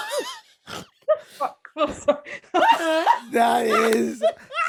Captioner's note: all laugning